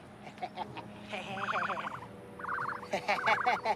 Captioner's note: both laughing